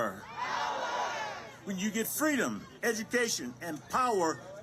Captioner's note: crowd